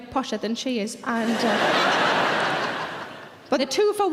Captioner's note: audience laughing